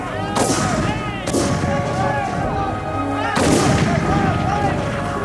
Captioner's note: guns bang; shouting